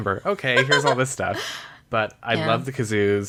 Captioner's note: laughs